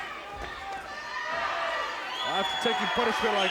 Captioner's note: audience cheers